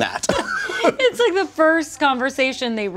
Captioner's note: both laugh